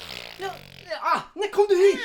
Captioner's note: makes a farting sound